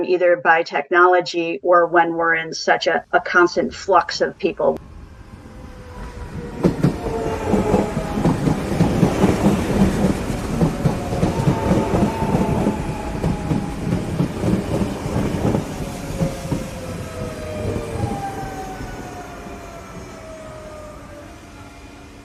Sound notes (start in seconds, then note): 5.5 rhythmic sounds of electric train pulling into station